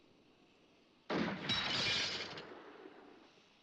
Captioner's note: gun fires